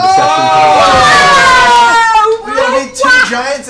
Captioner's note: yelling